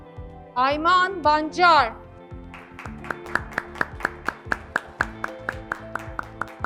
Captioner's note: graduates clapping